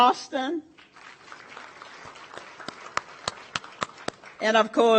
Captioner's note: audience applauds